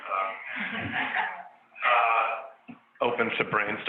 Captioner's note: panelists laughs